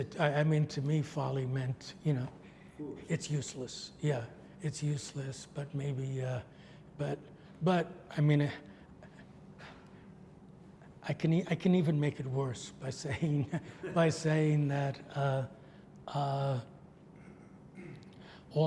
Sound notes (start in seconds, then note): 13.4 laughs